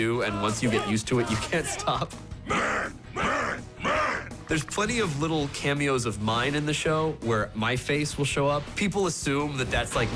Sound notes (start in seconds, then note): 3.1 all chanting "man"